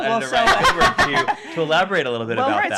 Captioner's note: laughing